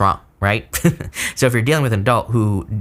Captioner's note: chuckles